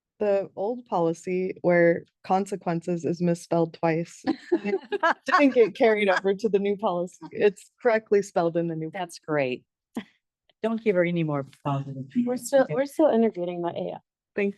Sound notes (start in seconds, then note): 4.2 board members laugh; 11.8 speaks faintly